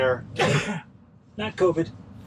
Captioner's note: coughs